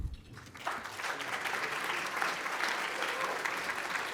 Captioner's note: audience applauding